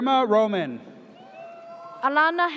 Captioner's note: audience cheers